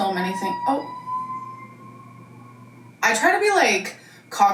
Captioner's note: siren blaring distantly